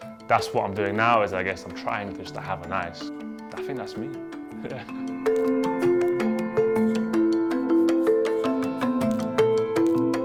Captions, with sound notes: That's what I'm doing now is, I guess, I'm trying to just to have a nice. I think that's me. (chuckles) (gentle music)